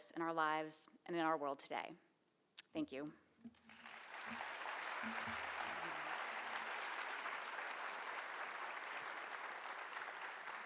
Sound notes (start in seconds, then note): 3.6 audience applauding